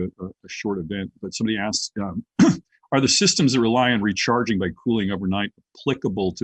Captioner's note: cough